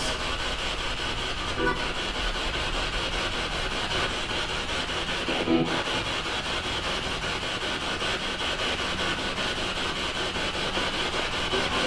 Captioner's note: radio noise from the spirit box